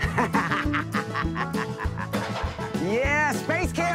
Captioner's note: laughing